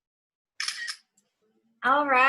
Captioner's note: camera shutter